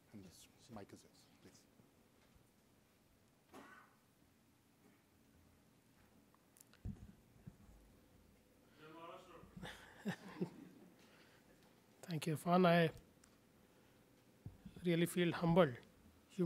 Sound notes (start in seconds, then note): 9.6 laughs